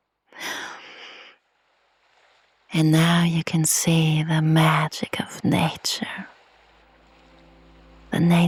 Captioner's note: sighs and gasps